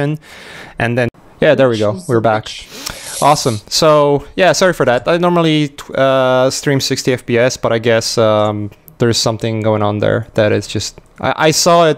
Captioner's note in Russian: помехи в связи